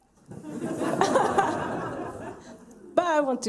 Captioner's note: laughter